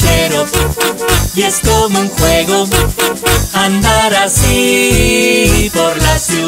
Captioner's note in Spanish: Sonido de bocina